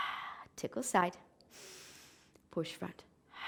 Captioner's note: inhaling; exhaling